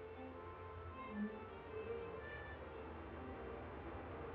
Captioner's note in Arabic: صوت البوق; محركات تهدر